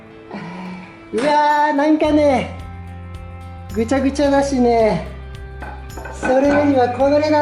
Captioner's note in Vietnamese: cười